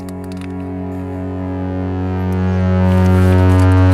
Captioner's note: loud tone